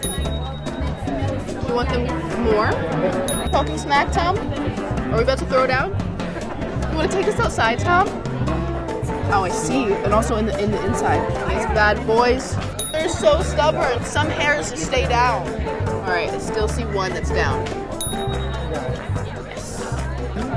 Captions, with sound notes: [bell dings] You want them more? [bell dings] Are you talking smack, Tom? Are we about to throw down? Do you want to take this outside, Tom? Oh I see, and also in the inside. These bad boys. [bell dings] They're so stubborn, some hairs just stay down. All right I still see one that's down. [bell dings]